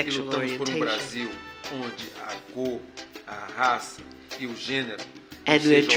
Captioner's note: speaking portuguese